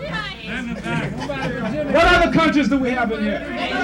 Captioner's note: crowd laughs